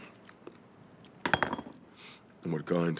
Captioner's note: bottle clatters